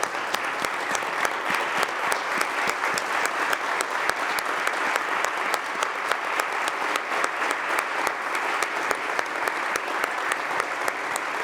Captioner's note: applause